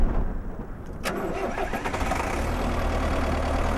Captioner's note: engine starts